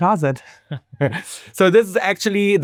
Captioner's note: laughing